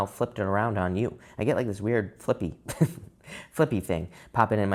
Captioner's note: chuckles